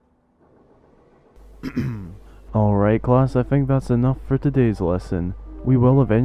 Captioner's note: coughs